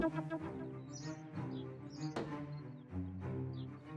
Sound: birds tweeting

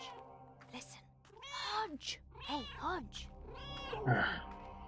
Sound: Hodge meowing; Hodge meowing

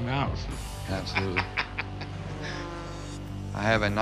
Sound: laughs

